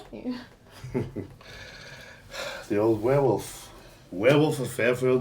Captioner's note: riendo